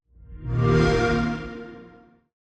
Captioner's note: xbox sound